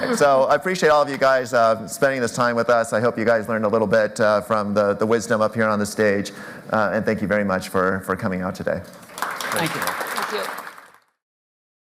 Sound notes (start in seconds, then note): 8.9 applause